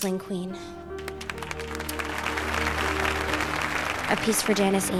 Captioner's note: audience applauding